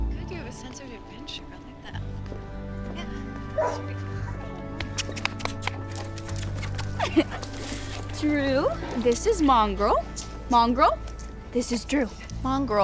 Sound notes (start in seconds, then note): 3.5 dog barks